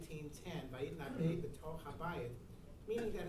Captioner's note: speaking in foreign language